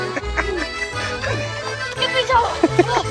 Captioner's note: laughter